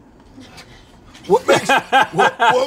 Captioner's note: laughs